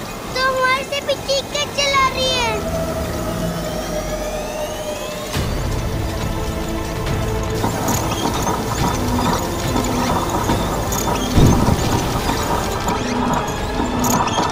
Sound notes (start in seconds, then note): 11.3 thud